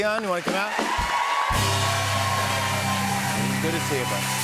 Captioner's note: cheers and applause